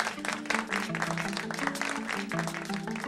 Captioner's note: applause